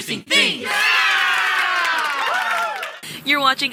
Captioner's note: crowd; people clapping